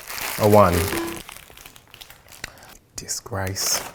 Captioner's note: error bell